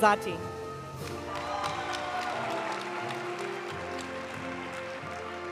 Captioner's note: audience cheering and applauding; graduation music